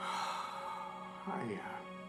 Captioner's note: Charles sighs